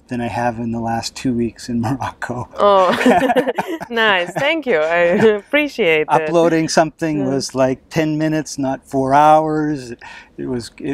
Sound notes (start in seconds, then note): 2.6 both laugh